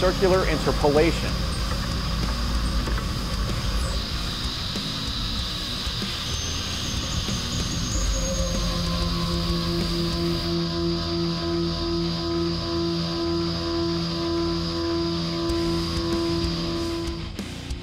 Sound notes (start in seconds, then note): 1.6 machining noises